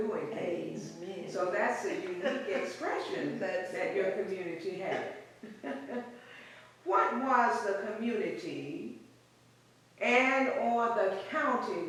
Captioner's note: laughs; laughs